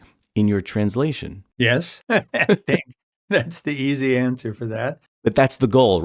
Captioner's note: laughter